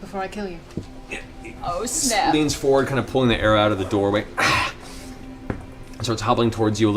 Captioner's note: groans in pain